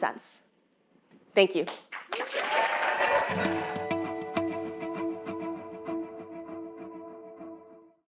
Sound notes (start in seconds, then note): 1.7 applause